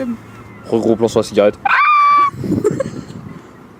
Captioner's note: screeching